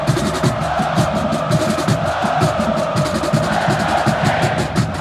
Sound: crowd cheers and chants

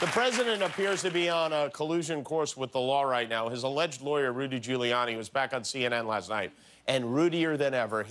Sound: applause

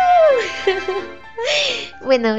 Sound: laughs

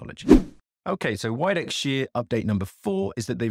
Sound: swooping transition

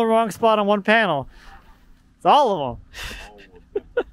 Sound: laughs

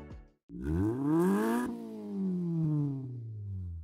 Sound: engine revs

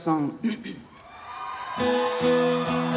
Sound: audience cheering; upbeat guitar music

